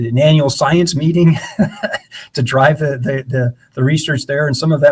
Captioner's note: laughs